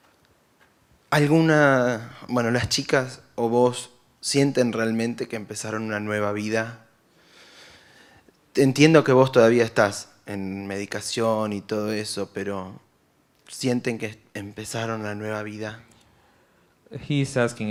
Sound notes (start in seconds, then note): 1.0 foreign language; 8.5 foreign language